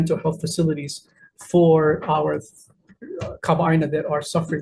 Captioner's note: speaking in foreign language